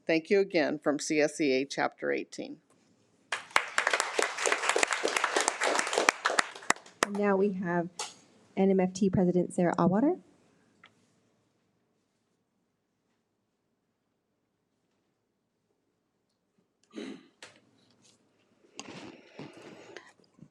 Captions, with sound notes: Thank you again from CSEA chapter 18. (attendees applaud) - And now we have NMFT president Sarah Auwarter.